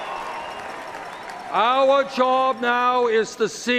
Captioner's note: cheers and Applause